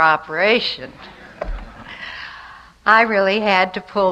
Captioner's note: light audience laughter